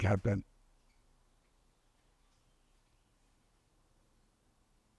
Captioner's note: pauses 10 seconds